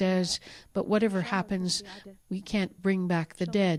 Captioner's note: speaking alternate language